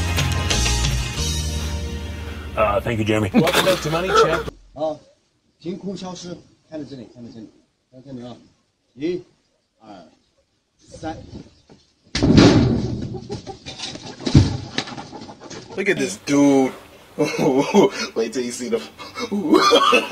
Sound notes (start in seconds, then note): 3.2 laugh; 3.5 spit; 5.8 speaking chinese; 12.2 door slam; 15.9 voiceover